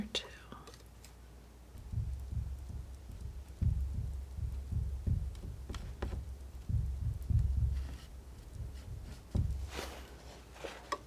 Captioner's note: scratching